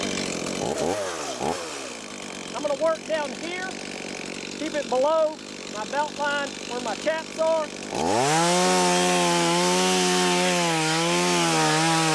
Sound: chainsaw

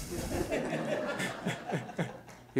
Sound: laughter

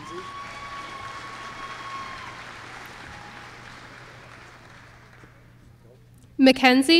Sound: applause

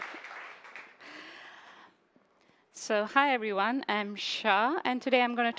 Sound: applause

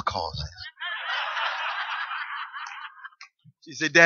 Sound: laughter

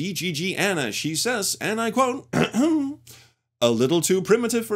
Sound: ahem

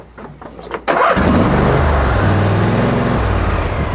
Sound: engine revs

